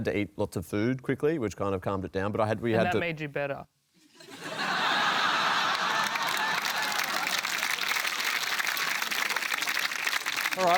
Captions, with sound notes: I had to eat lots of food quickly, which kind of calmed it down, but I had... And that made you better. (LAUGHTER) (APPLAUSE)